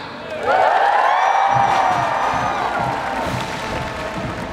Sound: audience applause

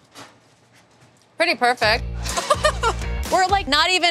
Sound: laughs

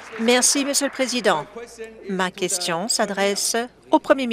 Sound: applause

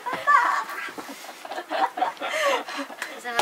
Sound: laughing

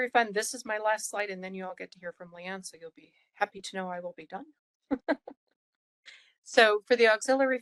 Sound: laugh

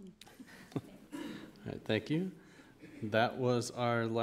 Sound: chuckle

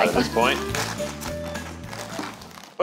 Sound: food crunches

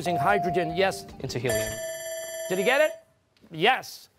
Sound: bell rings

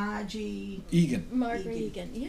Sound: voiceover

